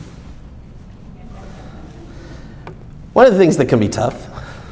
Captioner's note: soft speaking off mic